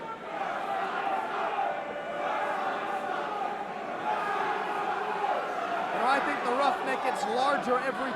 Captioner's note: crowd cheering